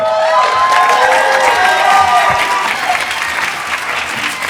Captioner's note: cheers and applause